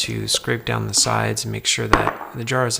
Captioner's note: bowl clatters